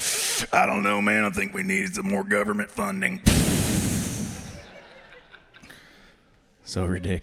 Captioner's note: exhale